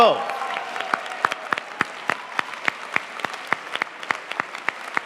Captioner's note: audience applauding